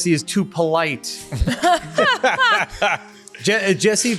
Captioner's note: laughing